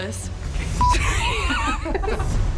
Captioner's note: camera beeps; laughs